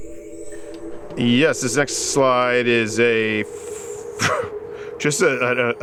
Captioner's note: laughs